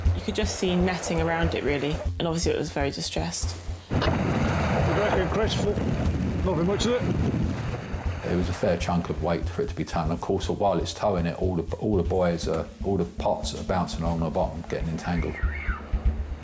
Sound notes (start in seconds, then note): 3.9 water sloshing